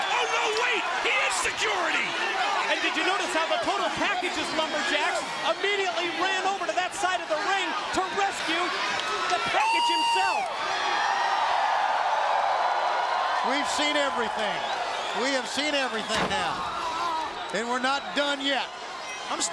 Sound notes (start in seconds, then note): 10.1 Sting howls; 11.0 crowd howls